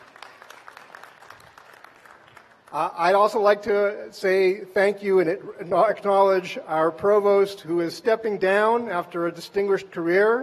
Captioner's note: applause